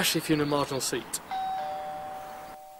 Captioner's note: ding dong